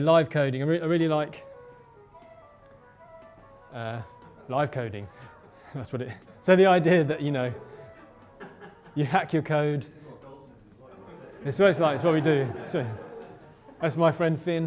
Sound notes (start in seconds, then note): 1.2 flute music; 4.6 laughter; 11.0 murmurs